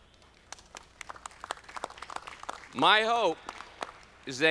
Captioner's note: audience clapping